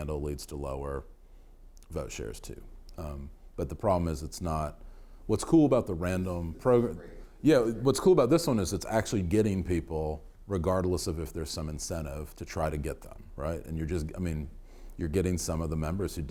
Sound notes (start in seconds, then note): 7.4 man speaking off microphone